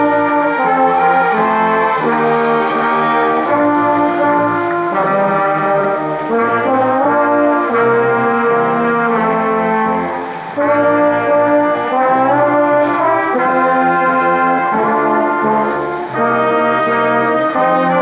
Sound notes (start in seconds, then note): 0.1 ceremonious music continues; 5.1 crowd applauding